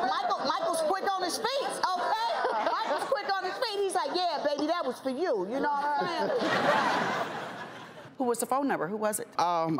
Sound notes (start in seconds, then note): 5.6 audience laughing